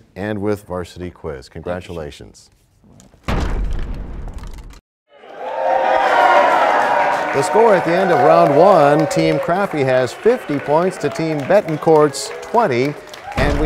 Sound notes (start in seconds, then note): 4.1 crashing sound; 5.2 applause